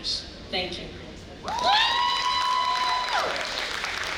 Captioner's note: audience cheering